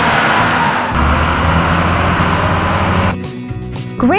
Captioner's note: scraper Engine Sound; grader Engine Sound